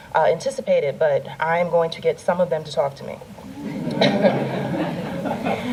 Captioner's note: laughter